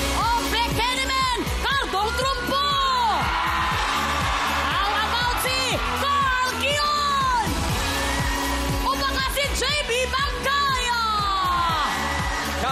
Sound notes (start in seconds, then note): 2.8 audience cheering